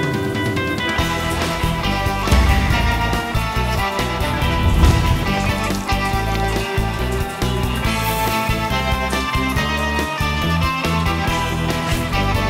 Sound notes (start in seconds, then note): 4.4 squirting